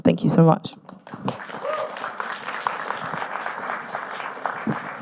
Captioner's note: audience clapping